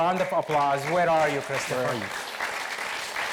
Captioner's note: audience applauds